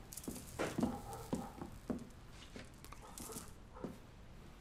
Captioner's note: ladridos lejanos